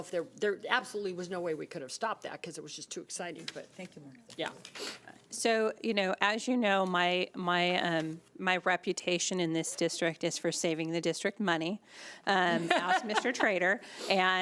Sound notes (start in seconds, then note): 4.2 speaking faintly